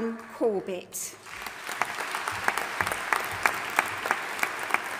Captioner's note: audience applauding